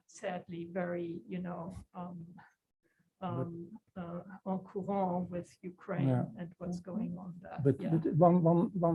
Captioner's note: non-english